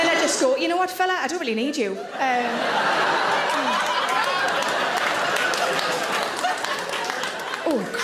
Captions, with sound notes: And then I just go, "You know what fella, "I don't really need you." (audience laughs) (audience applaud)